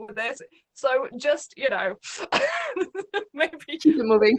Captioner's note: laughs